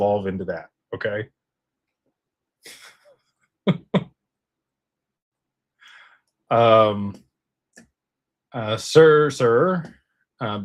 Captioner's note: laughter